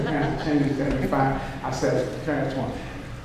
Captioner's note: audience laughing